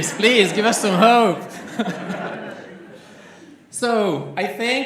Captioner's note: laughter